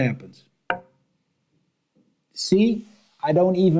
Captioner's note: cue clacks